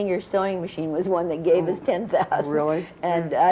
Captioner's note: laughs